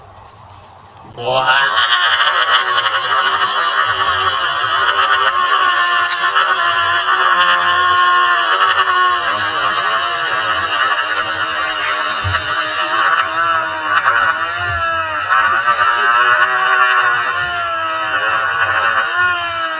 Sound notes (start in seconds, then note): 1.7 wahhhhhhh!!!!